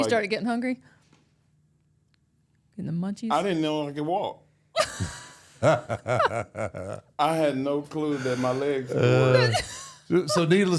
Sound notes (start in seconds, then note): 4.8 laugh